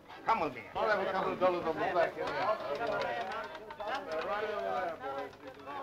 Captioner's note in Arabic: الناس يتحادثون